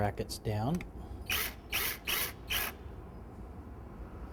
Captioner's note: drill whirs